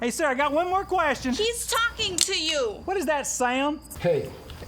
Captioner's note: gun clicks